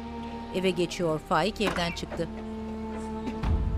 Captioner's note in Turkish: Kapı açılma sesi